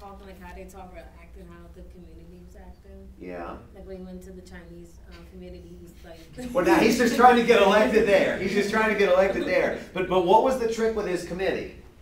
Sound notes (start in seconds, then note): 6.0 laughter